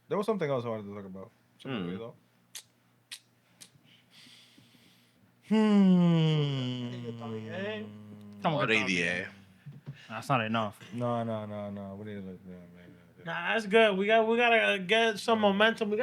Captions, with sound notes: There was something else I wanted to talk about. Something to read about. (Kissing) (Sighs) (Speaking Spanish) That's not enough. No, no, no, no. (Speaking Spanish) Nah, that's good. We got to get some momentum.